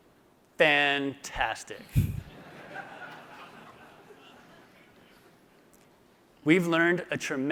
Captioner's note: laughter